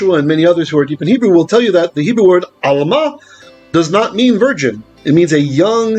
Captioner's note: Hebrew